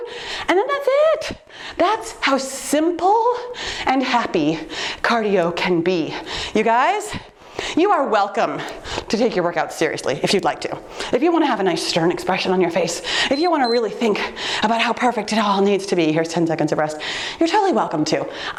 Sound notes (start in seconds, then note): 13.3 timer beeps